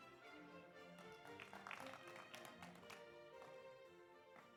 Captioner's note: audience applauds